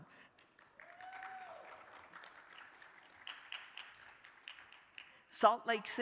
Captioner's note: crowd applauding; crowd cheering